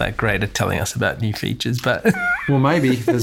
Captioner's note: laughs